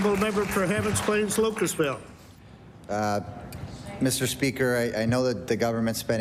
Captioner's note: applause